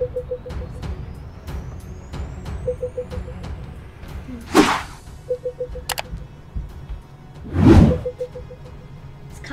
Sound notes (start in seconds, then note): 0.1 beeping continues; 4.4 air whooshing; 5.8 button clicks; 7.4 air whooshing